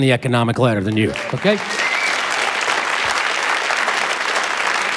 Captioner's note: applause